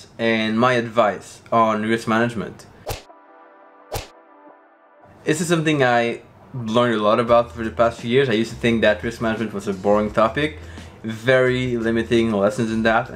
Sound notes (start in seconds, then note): 3.9 golf ball whacks